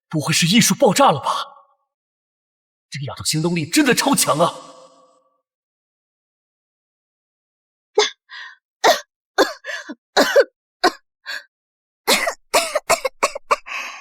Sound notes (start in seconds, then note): 12.0 cough cough cough